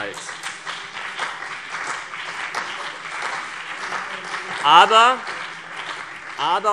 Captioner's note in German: Beifall CDU und BÜNDNIS 90/DIE GRÜNEN